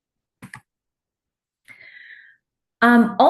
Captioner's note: clicking